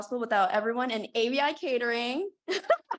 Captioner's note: laughing